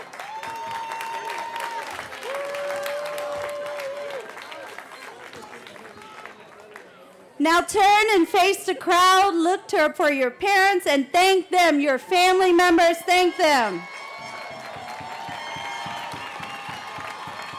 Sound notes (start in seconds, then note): 5.1 cheering